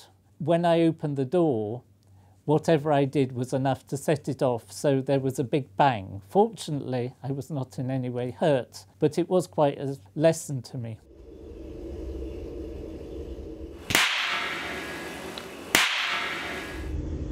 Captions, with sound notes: When I opened the door, whatever I did was enough to set it off. So there was a big bang. Fortunately I was not in any way hurt, but it was quite as lesson to me. [Bang] [Bang]